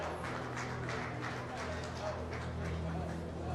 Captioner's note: Verspreid applaus